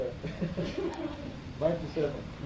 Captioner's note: laughter